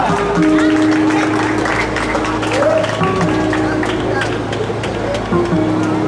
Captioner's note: audience laughs